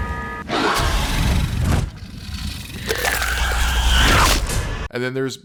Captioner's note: Xenomorph sounds